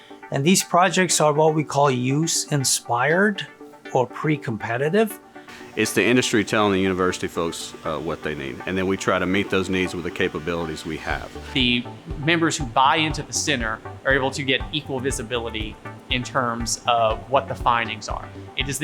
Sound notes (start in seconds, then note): 5.0 machinery running